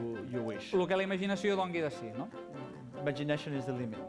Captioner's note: non-english speech